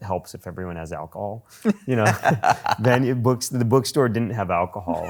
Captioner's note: laughs